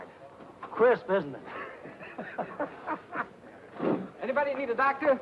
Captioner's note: happy laughing